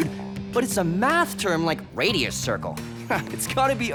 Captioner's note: surfer voice; nerdy voice